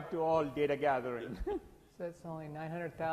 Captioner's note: laughs